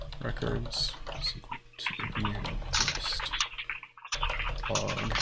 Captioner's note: keyboard keys clanking